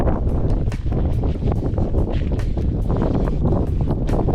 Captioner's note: strong wind